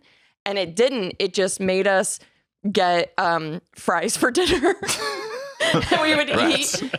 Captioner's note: laughs